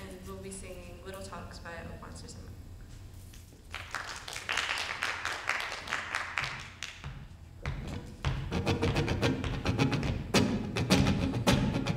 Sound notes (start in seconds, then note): 3.7 audience applauding; 8.3 guitar strumming